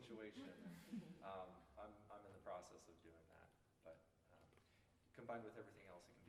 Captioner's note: laughter